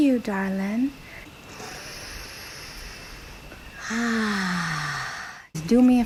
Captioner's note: inhale